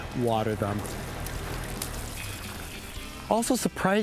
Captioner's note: water splashing